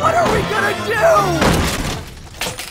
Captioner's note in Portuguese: Porta derrubada